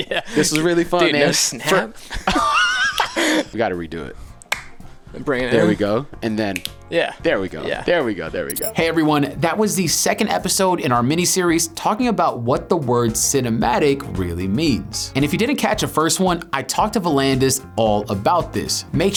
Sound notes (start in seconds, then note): 7.0 camera snaps